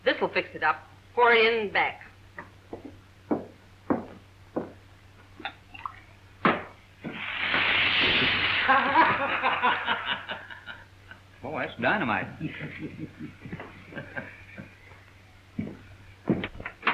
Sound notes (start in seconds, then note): 7.0 liquid fizzing; 9.2 group laughing